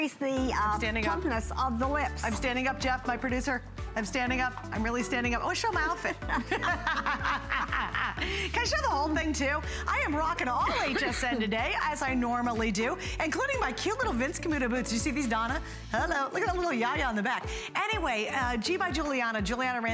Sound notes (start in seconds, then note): 6.2 laughter; 10.6 laughter